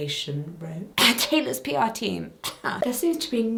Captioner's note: cough